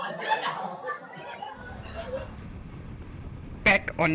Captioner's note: people chattering